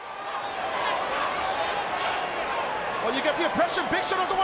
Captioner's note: crowd jeering